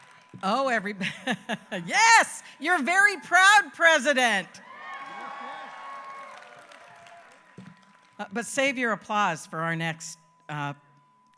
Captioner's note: applause